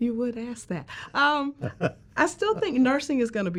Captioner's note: chuckles